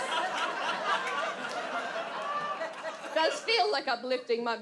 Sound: audience laughs

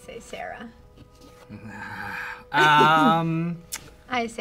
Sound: evil laugh

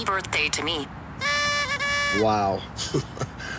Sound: party noise blower

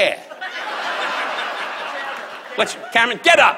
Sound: audience laughs

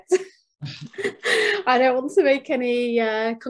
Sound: laughs

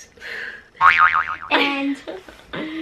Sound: boing

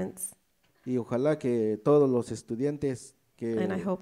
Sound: speaks in foreign language

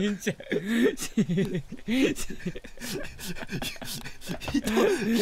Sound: laughs; laughs

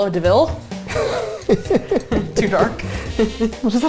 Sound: laughing

